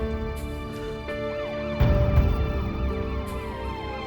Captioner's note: sirens wailing